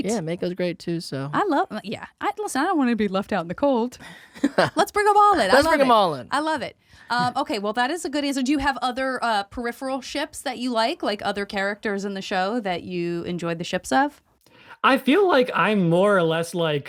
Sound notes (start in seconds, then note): 4.4 Dante laughs